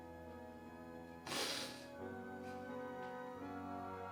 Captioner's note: sniffles